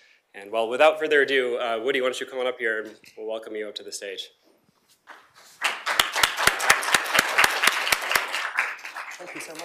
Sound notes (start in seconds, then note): 5.5 applause